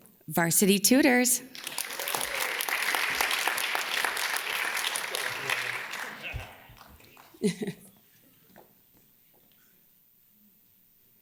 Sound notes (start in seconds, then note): 1.4 audience claps; 5.3 audience member laughs; 7.3 laughs